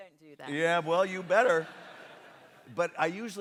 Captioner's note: laughter